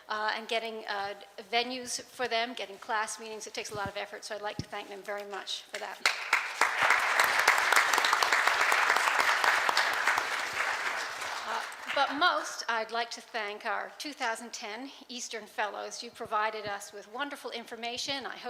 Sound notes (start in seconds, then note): 5.8 clapping